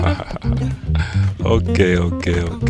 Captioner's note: laughing